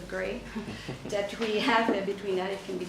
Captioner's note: chuckles